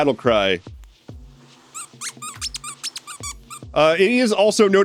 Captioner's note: squeaking